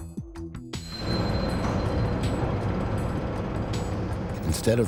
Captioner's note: crane whirs